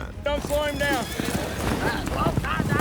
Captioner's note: cowboys shouting